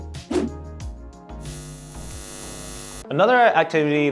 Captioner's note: eyes buzzing